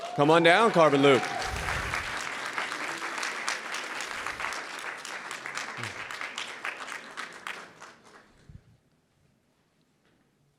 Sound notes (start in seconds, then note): 1.9 audience cheering and applauding